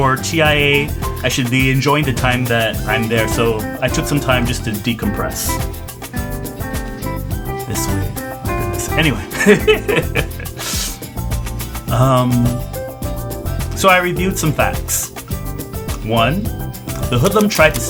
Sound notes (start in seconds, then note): 9.2 laughs